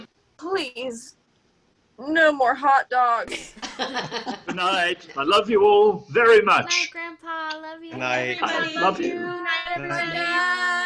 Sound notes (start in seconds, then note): 3.4 general laughter; 6.1 chorus of goodbyes